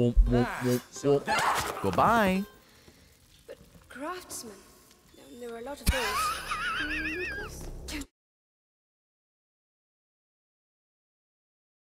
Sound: laughs

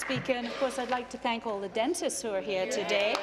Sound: applause

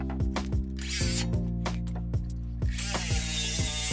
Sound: sander buzzes

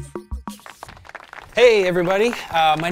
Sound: applause

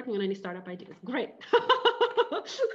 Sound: laughing

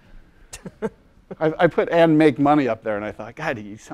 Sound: laugh

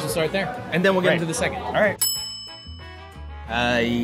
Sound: bell dings

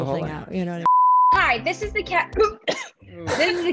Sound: cof

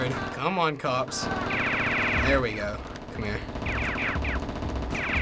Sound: rapid firing

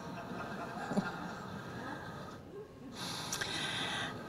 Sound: laughter

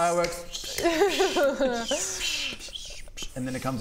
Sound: pssh...pssh...psssht...pssssh

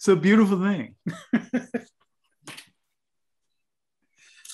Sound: laughs softly

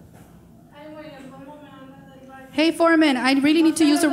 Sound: speaking in foreign language

